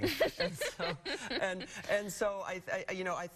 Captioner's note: laughing